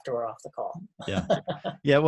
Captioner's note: laughs